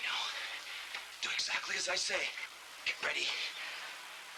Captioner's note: whispering